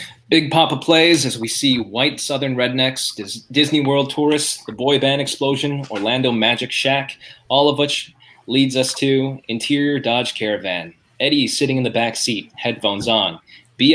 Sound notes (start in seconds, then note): none